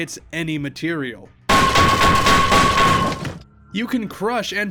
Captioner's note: super loud crowbar banging sounds